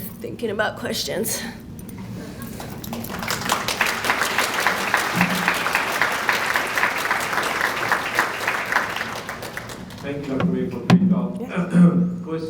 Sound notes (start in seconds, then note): 2.8 audience applauds